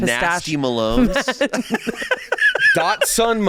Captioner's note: laughing